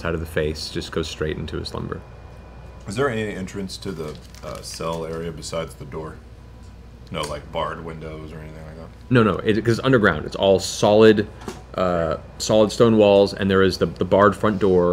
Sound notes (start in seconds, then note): none